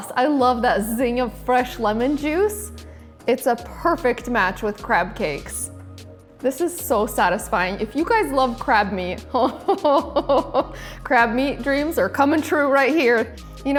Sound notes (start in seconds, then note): 9.4 chuckling